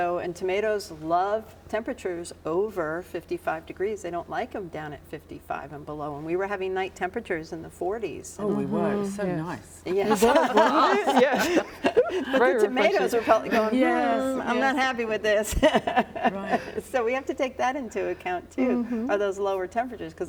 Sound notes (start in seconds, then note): 9.9 all laughing; 15.5 laughs